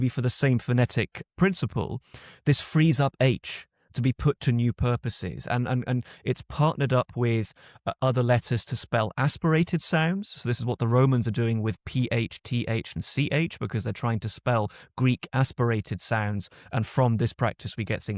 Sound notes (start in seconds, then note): none